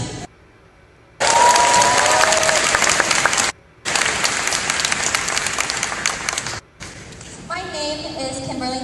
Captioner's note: applause